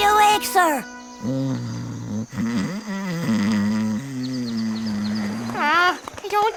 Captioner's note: Finbarr snoring